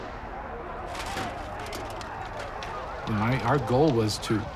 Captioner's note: flames crackling